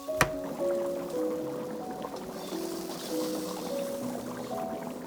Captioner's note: bubbling